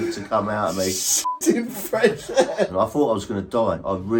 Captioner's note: beep